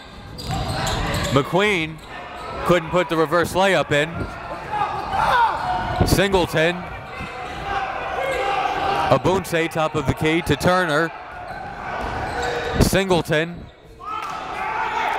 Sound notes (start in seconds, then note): none